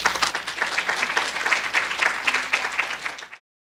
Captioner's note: applause